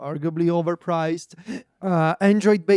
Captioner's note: laughs